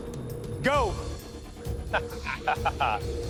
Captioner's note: chuckling